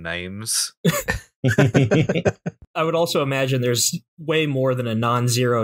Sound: laughter

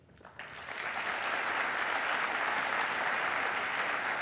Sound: applause

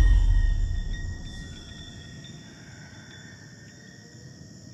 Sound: ominous voice

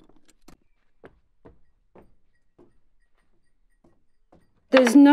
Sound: footsteps thudding softly

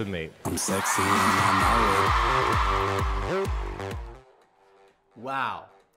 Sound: audience cheers

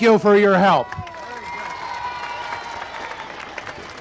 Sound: crowd cheering and applauding

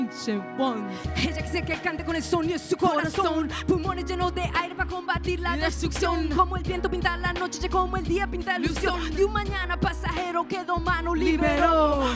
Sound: spanish words

